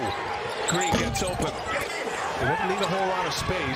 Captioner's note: crowd noise